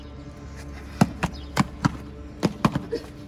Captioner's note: royal stomps